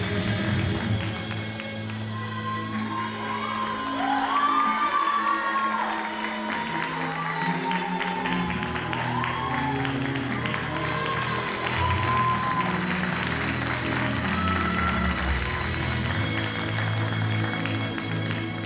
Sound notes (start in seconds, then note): 6.0 audience cheers and applauds